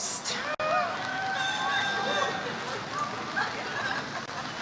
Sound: audience cheers

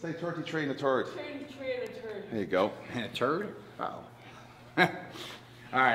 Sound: laugh

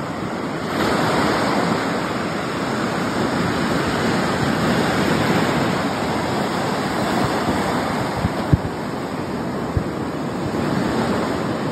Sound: waves crashing on beach

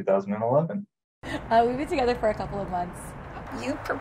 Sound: laughs

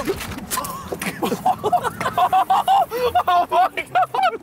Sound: Sidemen laughing

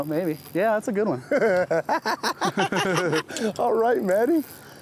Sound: laughing

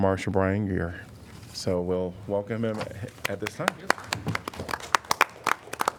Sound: applause

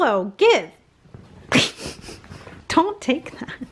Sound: laughing

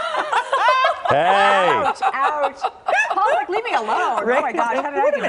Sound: laughter

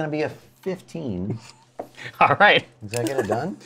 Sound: laughs

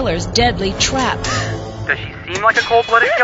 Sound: Nancy gasps

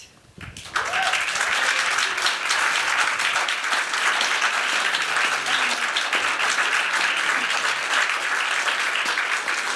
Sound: applause

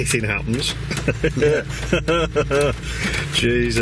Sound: chuckling

